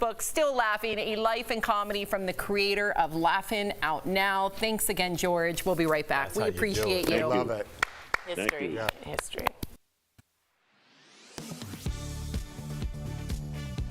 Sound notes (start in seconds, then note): 7.7 applause